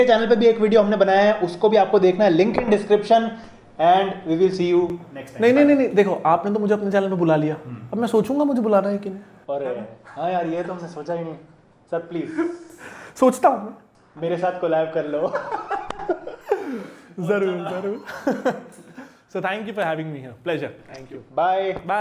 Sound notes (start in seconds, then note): 13.8 sarcasm; 15.3 laughs